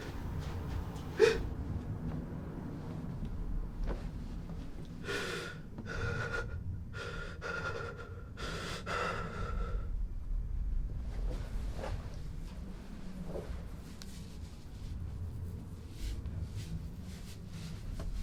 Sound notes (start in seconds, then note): 5.0 desperate gasps